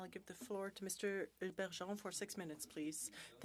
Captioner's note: speaking French